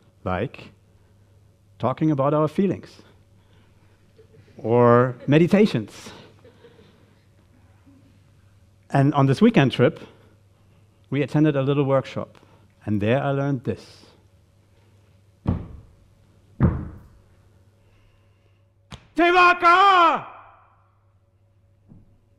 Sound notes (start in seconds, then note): 15.4 feet stomping; 19.2 shouting in Maori